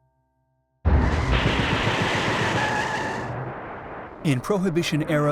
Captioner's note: tires squealing; gun shots